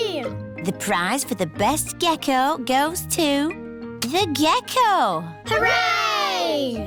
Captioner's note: none